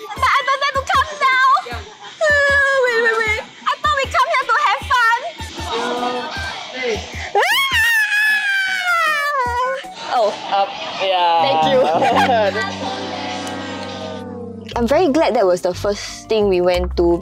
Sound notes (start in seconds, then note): 7.3 screaming